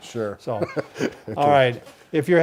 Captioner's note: laughs